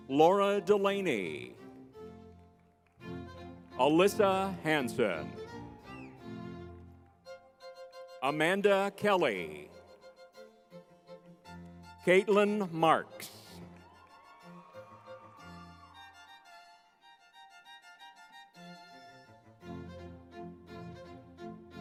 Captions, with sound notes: Laura Delaney, Alyssa Hansen, Amanda Kelley, Kaitlin Marks. (crowd cheering) (lively music)